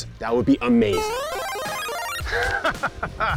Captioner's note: tones beeping; laughs